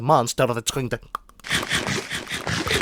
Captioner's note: aggressive Nail biting